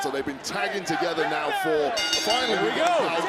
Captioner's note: bell rings